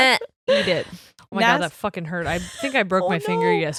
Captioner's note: laughs